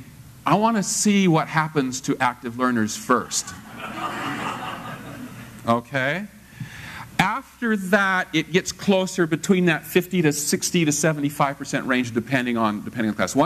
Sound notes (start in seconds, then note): 3.3 laugh